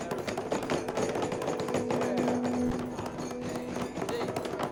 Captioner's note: hands thudding